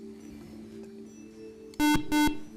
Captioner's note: buzzer